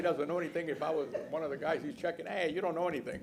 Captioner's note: laughter